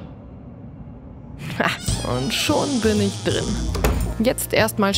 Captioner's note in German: Knarzen